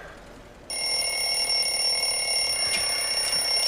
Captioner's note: telephone rings